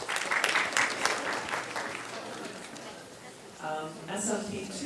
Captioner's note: audience clapping